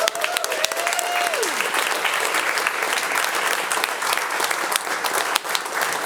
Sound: audience applauding and cheering

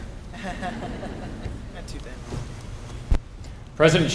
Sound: laughter

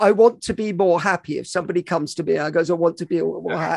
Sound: stammers

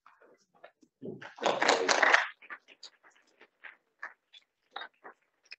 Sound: audience applauding

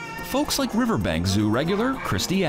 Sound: various animal sounds

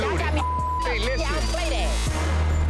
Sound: beep

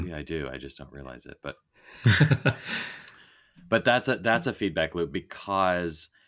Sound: laughing

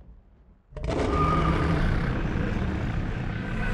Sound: screeching

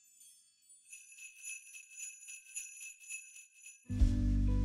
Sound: bells jingling

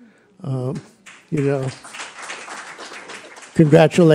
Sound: applause

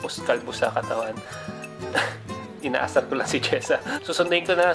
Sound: awkward giggle

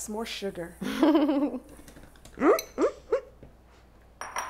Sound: women laughing

